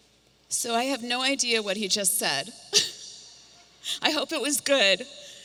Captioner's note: laughs